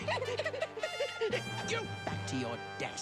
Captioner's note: cackling